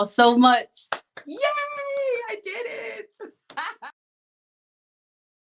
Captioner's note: laughs